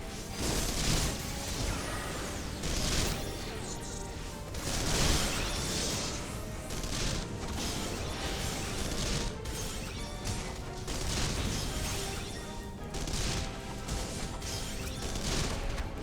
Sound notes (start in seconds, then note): 13.2 gunfire